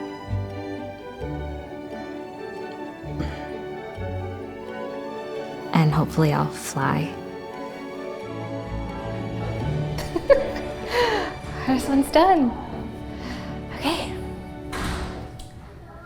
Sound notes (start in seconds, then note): 0.2 bright music; 8.5 bright music; 9.9 laughing